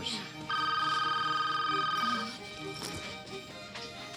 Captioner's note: phone rings